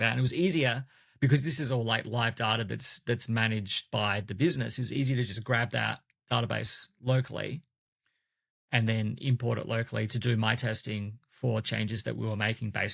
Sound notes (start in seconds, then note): none